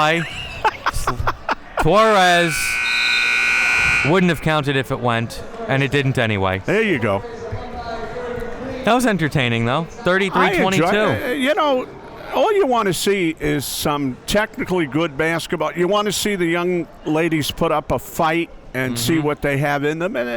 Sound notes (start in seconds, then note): 0.0 laughing; 2.0 buzzer sounding